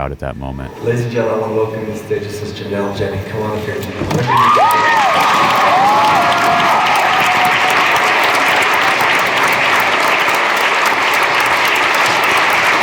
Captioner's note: applause